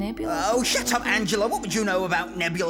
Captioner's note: english accent